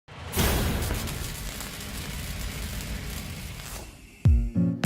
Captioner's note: metal slams and burns; upbeat music